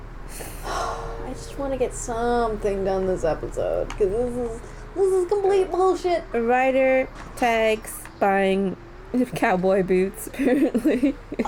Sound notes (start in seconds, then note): 0.3 sigh; 10.3 laughter